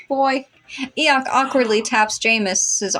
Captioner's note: gasp